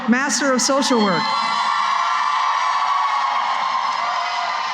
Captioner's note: cheering